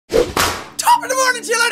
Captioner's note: whapoosh